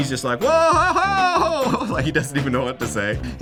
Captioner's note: chuckles